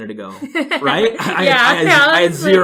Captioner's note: laughs